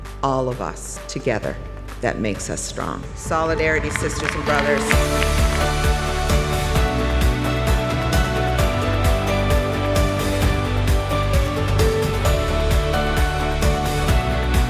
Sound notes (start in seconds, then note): 3.9 applaudissements; 4.8 musique inspirante